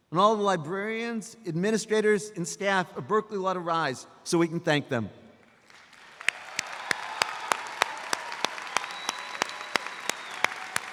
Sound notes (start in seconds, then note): 5.6 audience applauds